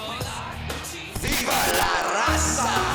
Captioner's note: static buzzes